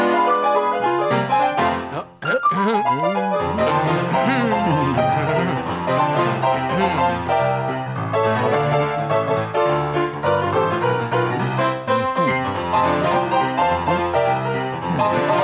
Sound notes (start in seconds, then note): 1.9 grumbling and muttering